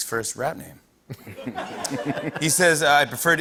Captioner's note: laughter